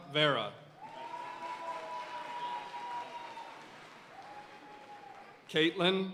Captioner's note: audience cheering and applauding